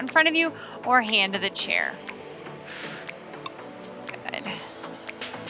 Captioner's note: exhales